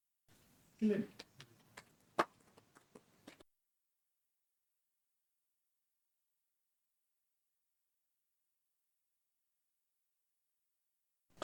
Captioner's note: claps